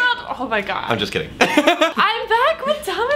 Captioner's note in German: lacht